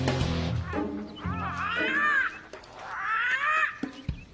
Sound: parrot squawking

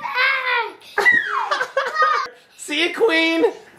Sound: laughs

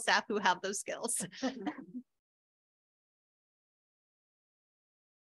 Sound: audience laughing

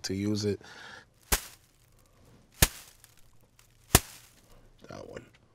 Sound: bag scrunching

